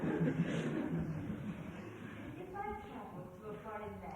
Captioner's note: laughter